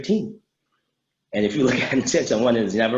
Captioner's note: laughs